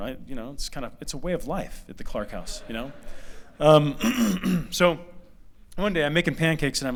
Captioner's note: laughter